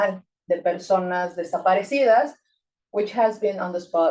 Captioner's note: speaking Spanish